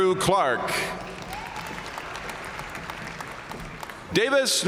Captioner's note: audience cheering and applauding